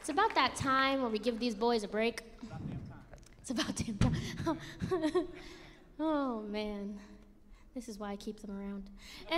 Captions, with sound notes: It's about that time when we give these boys a break. - It's about damn time. - It's about damn time. (laughs) Oh, man. This is why I keep them around.